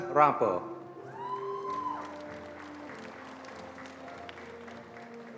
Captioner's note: attendees applauding